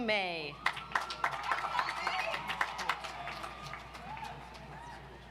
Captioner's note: audience applauds